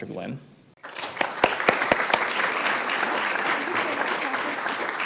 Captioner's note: applause